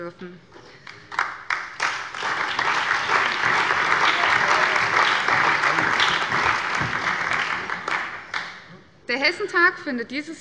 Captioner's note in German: Allgemeiner Beifall